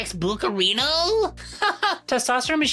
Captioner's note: laughs